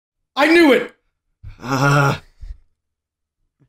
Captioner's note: frustration